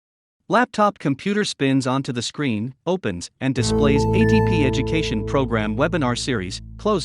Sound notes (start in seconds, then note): 0.6 voiceover